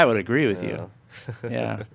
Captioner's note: laughing